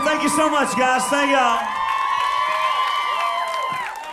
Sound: applause

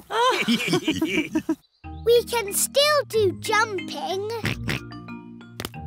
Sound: all laughing; oinks

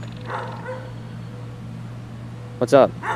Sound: dog barking

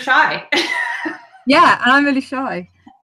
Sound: laughing

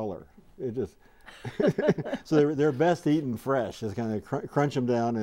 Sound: laughing

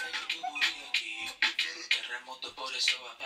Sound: laughs in Edie

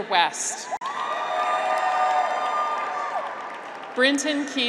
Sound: graduates cheer

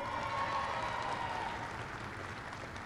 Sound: applause

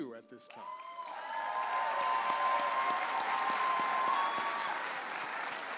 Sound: audience applauding and cheering

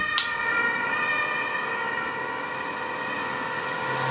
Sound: passing emergency vehicle

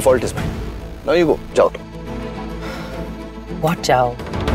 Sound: exhales

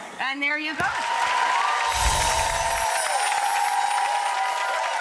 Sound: applause

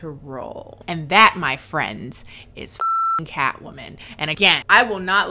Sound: beep

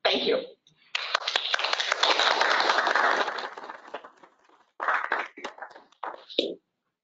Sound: applause

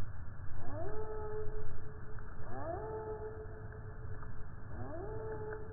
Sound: a loon calls in the distance, slowly

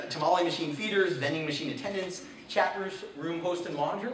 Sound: none

